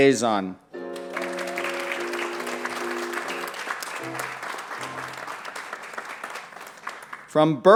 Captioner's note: applause